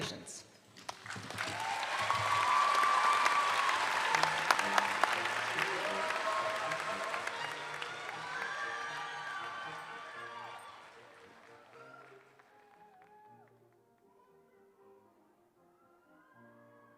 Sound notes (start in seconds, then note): 5.0 applause